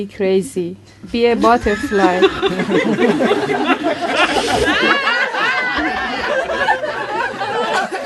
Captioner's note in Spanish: risas fuertes